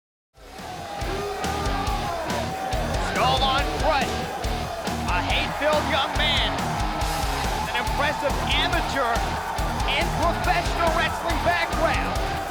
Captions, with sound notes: (heavy rock music) (crowd cheers) Skull Von Krush. A hate-filled young man. An impressive amateur and professional wrestling background.